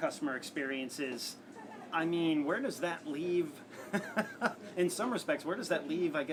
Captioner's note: laugh